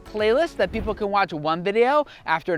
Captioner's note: air whooshing